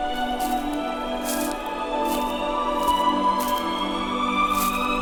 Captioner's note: grass crunching